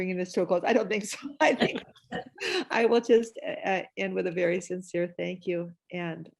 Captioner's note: laughter